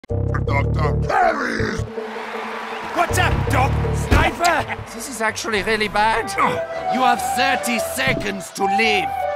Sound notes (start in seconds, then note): 0.0 audience cheers; 6.0 audience laughs